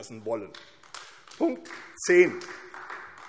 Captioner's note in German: Beifall AfD